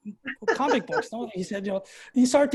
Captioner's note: laughing